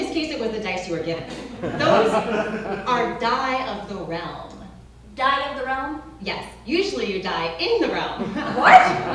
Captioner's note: laughs